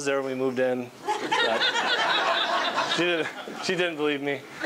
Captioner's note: laughing